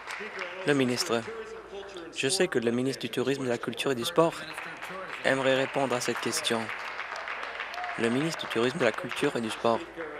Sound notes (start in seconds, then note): 0.0 applause